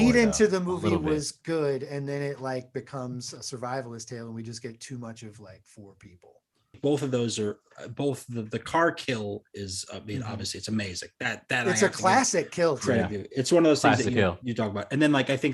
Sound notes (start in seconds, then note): none